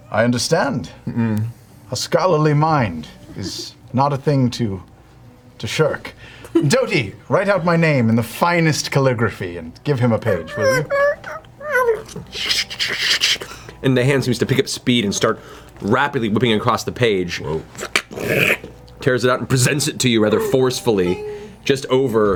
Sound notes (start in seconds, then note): 11.1 writing noises; 18.7 tearing paper noise